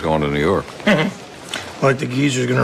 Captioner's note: chuckles